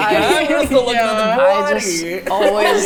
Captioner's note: overlapping chatter